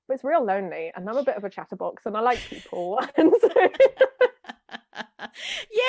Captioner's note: laughs